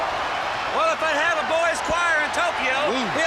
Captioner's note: crowd cheering